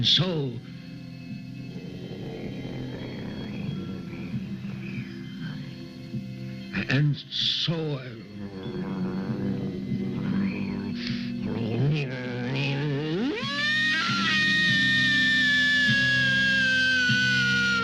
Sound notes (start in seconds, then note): 1.6 growl rumbling; 8.5 low grumbling; 12.4 wolf howling